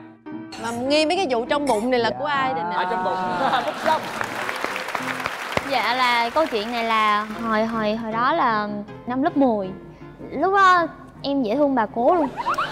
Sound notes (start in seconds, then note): 3.6 applause